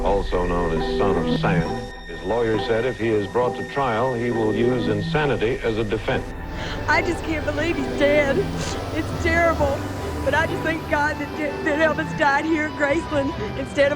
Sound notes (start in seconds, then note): 8.4 crying